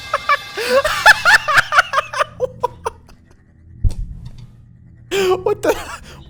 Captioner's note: laughter